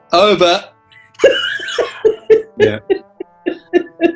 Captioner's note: giggling